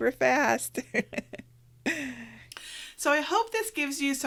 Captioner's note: laughs